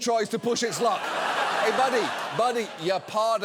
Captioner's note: studio audience laughs